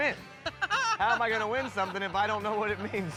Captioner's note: laughing